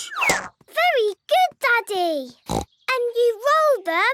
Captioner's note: snorts